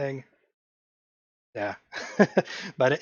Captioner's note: laugh